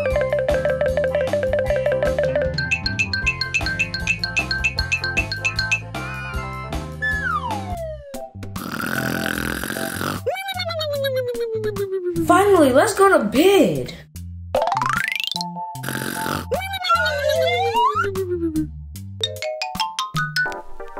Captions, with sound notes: (xylophone plinking) (slide whistle descending) (snoring) Finally, let's go to bed. (snoring) (slide whistle ascending)